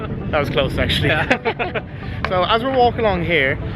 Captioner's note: both laugh